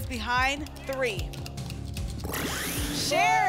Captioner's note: buckeyes rattle